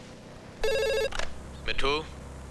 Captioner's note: Phone rings